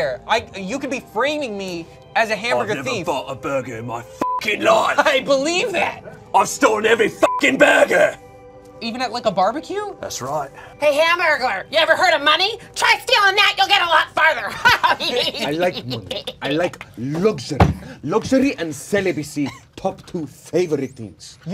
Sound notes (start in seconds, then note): 4.2 beep; 7.2 beep; 14.4 laughing